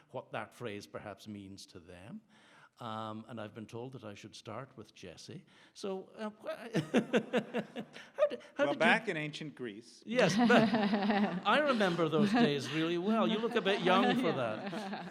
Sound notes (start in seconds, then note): 6.8 audience laughs; 10.2 audience laughs